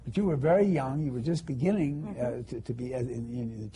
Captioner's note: none